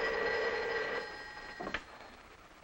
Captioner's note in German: Telefon klingelt